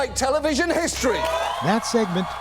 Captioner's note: cheering and applause